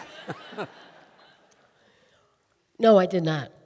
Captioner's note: audience laughing